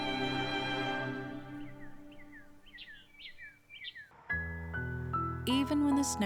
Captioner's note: birds chirping